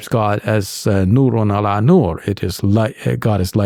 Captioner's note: speaks in foreign language